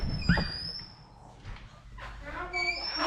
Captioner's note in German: Tür quietscht; murmelt